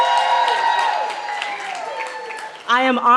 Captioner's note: cheering